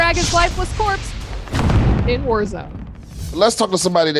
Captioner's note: logo crashing